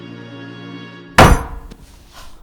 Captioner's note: ominous music; fist banging on a coffee table